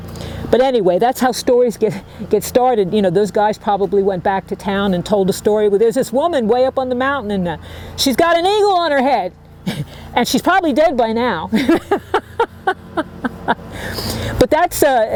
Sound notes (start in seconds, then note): 11.5 laughing